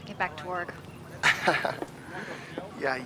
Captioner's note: chuckles